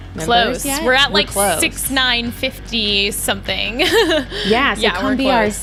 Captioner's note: laughs